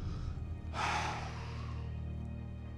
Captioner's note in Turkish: Nefes sesi